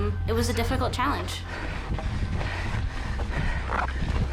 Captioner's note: panting